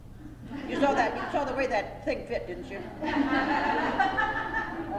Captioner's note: laughter